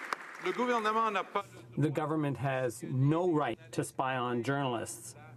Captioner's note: some Applause